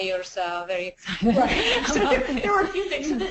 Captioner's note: laughs